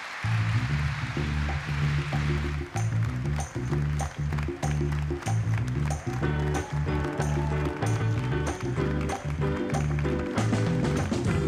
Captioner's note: applause